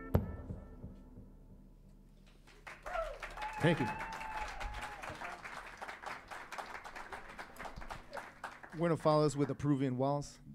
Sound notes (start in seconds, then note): 2.3 saludos y aplausos; 2.5 cheers and applause; 4.6 saludos y aplausos